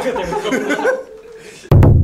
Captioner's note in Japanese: スタッフ笑い声